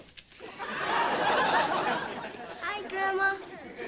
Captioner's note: audience laughing